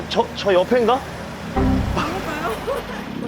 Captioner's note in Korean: 웃음